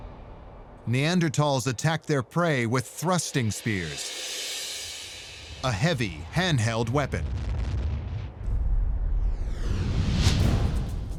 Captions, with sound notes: Neanderthals attacked their prey with thrusting spears, a heavy, hand-held weapon. [deep rumble] [tense adventure music]